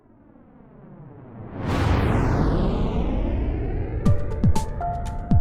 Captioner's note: rocket roaring; upbeat electronic music